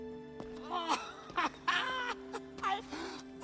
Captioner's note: laughs